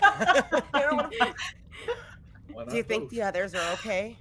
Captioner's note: laughing